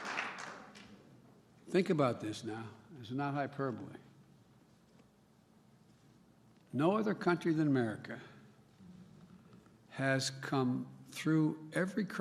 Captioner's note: applause